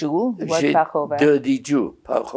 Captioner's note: non-english